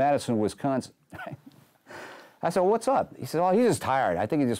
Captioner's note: chuckles